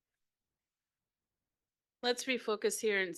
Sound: audio cuts out

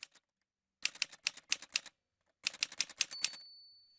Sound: typewriter sounds

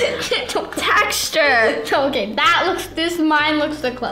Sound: laughing

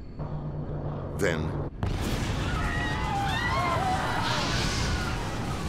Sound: passengers screaming

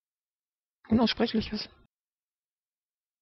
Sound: fast Pronunciation

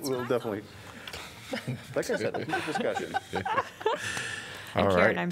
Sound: laughter

